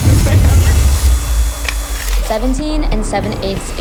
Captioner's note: drills drilling